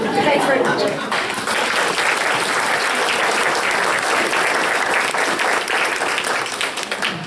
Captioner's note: audience applause